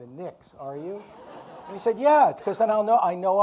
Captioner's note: audience laughing